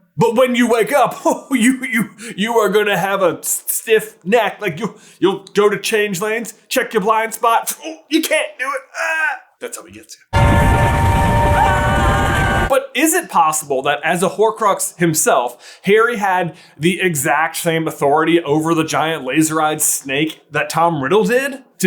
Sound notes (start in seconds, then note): 10.3 train whistle; 10.4 golden duo of screams